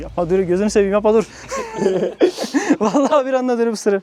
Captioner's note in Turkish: Gülüşmeler